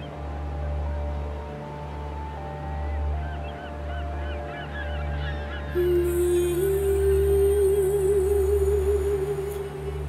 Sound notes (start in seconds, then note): 3.0 birds; 3.0 waves sounds